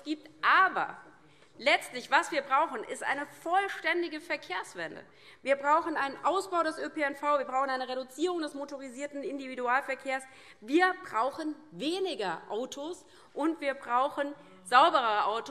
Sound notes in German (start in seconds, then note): none